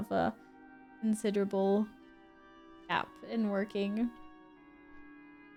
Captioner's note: sad noises